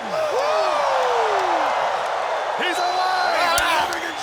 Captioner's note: audience cheering